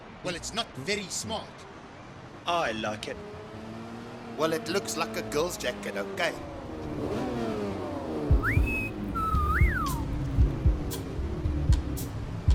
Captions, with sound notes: - Well, it's not very smart. - I like it. - Well, it looks like a girl’s jacket. Okay? (engine roars) [Fillus whistles]